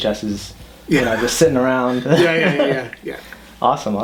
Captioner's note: both laughing